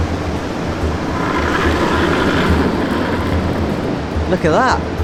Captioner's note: curling stone roaring